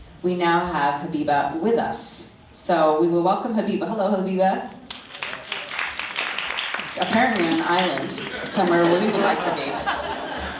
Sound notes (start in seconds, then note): 4.8 audience applauding; 10.4 audience laughing